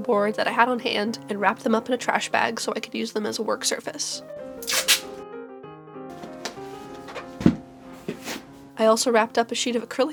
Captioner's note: tape ripping